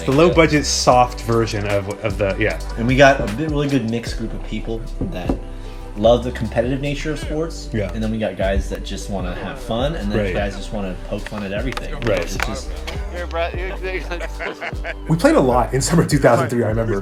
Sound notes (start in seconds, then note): 12.8 discs clatter; 13.8 mingled chatter and laughter